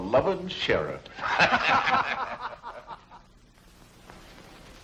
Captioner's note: all laughing